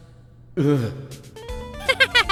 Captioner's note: shudder; chuckles